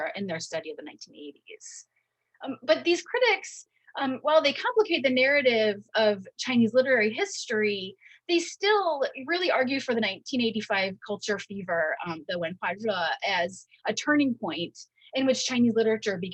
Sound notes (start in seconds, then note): 12.6 speaking in Mandarin